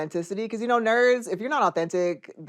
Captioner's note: none